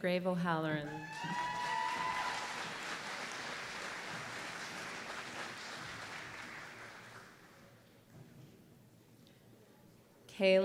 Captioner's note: applause